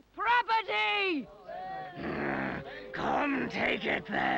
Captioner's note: growling